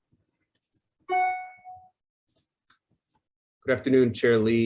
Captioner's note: computer pings